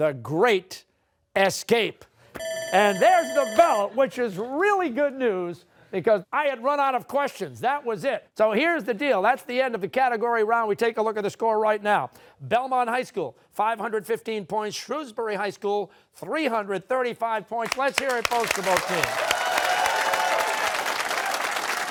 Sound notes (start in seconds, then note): 2.4 bell ringing